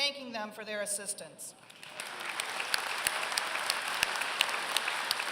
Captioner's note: applause